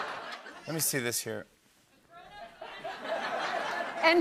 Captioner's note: laughter; laughter